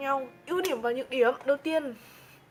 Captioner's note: snaps finger